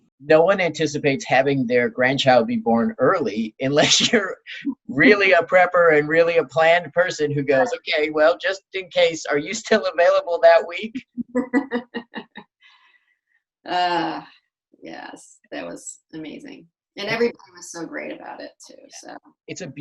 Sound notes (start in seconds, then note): 11.0 laughs